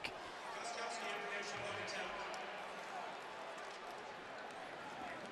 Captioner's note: pa announcement